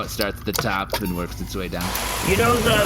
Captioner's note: sound of a hose turning on